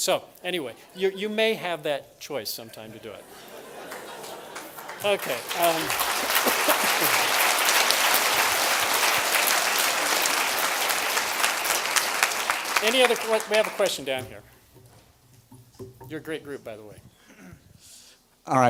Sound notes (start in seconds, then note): 4.7 applause